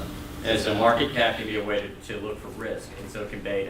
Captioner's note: voiceover